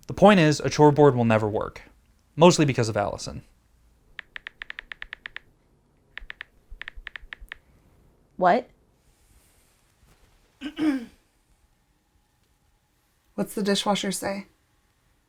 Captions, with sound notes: The point is, a chore board will never work. Mostly because of Allison. **loud, obnoxious typing** What? **throat clears** What's the dishwasher say?